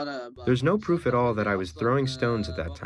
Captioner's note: through translator